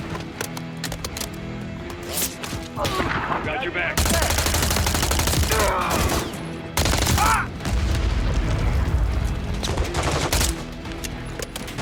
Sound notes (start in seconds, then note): 0.1 ammo clicking; 4.0 bullets popping; 5.5 enemy groaning; 7.6 explosion booming; 9.7 bullets popping; 11.6 enemy chattering